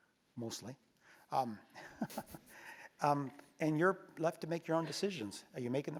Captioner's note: laugh